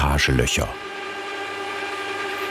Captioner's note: machine noises